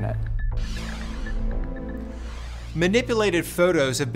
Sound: logo swooshing

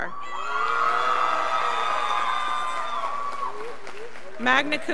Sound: scholars applauding

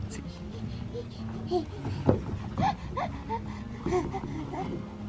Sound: laughing

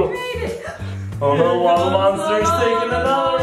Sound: gasps

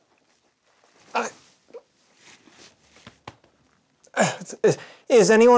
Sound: uncomfortable, yet loving noises

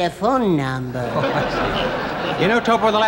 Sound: audience laughing

